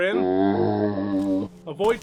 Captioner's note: zombie sound